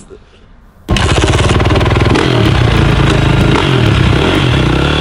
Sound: engine revving

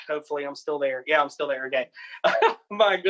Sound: laughs

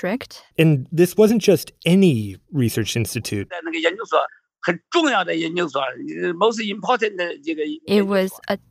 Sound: speaking Mandarin

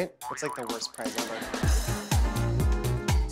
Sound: laughter; upbeat music playing

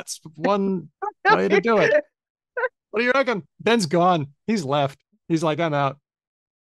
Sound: laughs

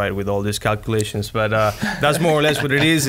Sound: laughs

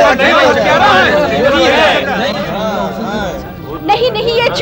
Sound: indistinct chatter

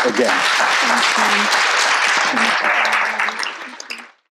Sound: audience applauding

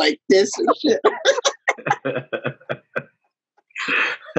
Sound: all laughing

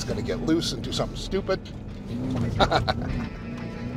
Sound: chuckles

